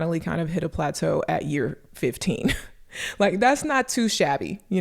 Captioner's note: chuckles